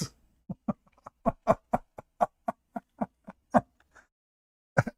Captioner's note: Ketawa